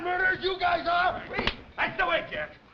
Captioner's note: hand smacking